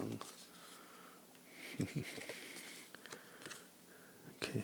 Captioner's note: laughing